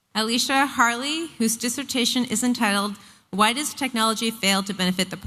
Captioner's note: none